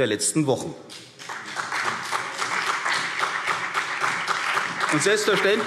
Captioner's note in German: Beifall CDU und BÜNDNIS 90/DIE GRÜNEN